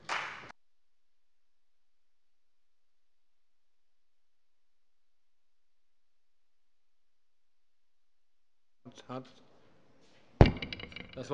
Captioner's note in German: Beifall bei der CDU